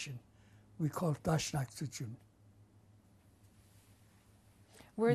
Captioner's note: non-english